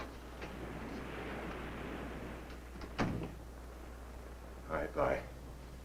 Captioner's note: waves crashing nearby